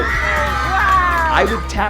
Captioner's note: kids cheering